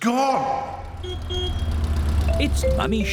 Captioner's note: horn honks